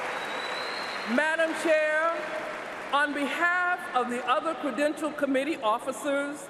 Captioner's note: applause